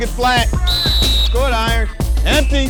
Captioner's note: whistle blowing